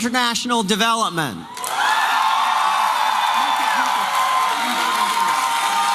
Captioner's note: applause and cheering